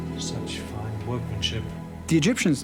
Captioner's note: none